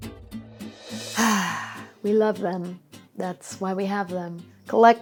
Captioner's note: sighs